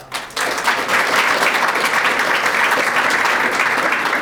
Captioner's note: audience applauding